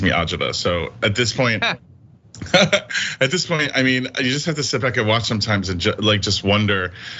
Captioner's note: laugh